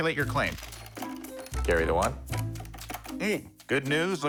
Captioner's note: buttons clacking